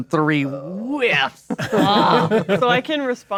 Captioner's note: players laughing